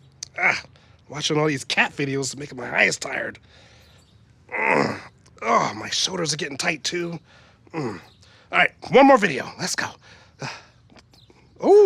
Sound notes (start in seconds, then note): 4.4 groans